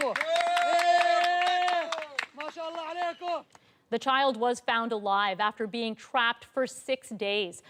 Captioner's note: applause